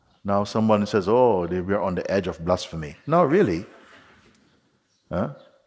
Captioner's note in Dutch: Zacht gelach